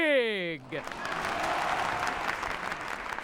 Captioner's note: cheering and applause